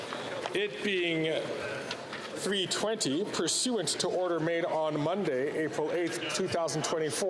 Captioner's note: speaking Alternate Language